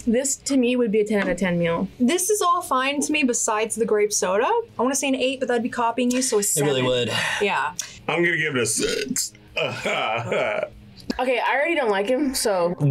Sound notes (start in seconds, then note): 8.7 belches